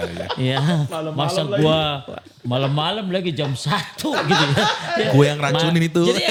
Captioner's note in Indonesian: tertawa